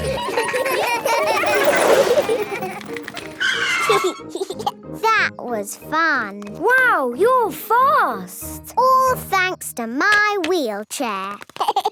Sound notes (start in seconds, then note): 2.1 brakes squealing; 2.1 giggling; 11.5 laughing